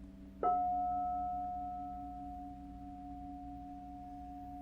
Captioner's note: bell dings